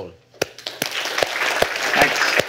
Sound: applause

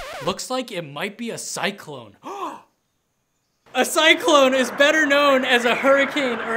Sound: gasp

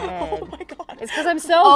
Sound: laughing

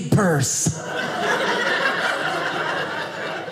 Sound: audience laughing

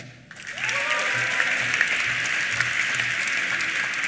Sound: applause

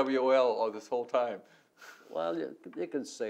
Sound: laughs

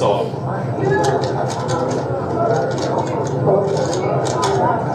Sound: chatter

